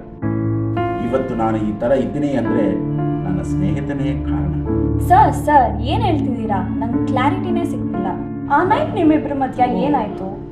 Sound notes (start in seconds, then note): none